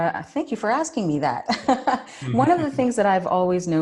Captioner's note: chuckles